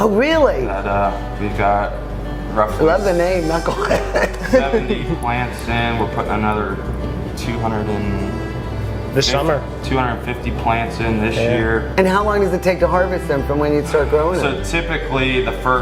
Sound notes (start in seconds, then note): 3.1 laughs